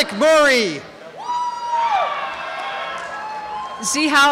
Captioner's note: cheering and applause